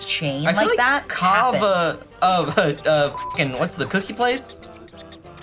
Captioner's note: beep